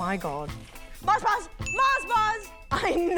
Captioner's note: ding!